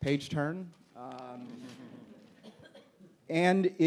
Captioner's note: audience laughs